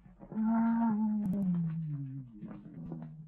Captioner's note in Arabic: أنين